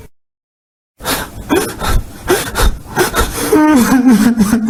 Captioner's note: Tank crying